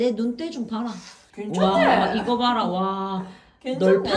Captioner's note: Exclaims in Busan dialect